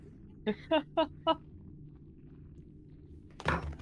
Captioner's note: Monaco chuckles